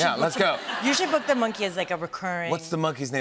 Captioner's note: laughter